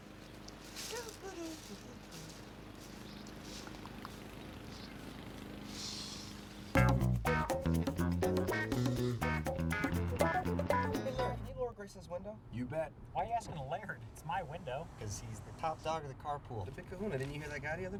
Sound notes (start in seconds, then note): 2.1 humming